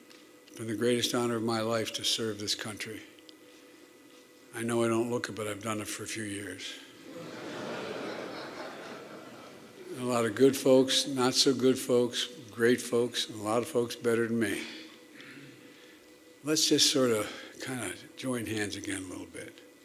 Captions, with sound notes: It's been the greatest honor of my life to serve this country. I know I don't look it, but I've done it for a few years. (Laughter.) And a lot of good folks, not-so-good folks, great folks, and a lot of folks better than me. Let's just sort of, kind of, join hands again a little bit.